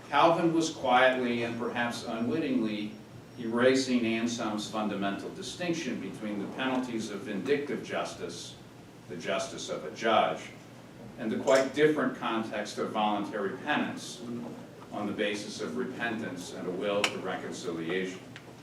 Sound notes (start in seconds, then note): none